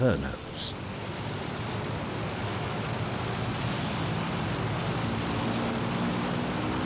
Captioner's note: plane engines roar